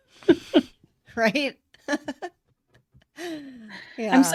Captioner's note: laughter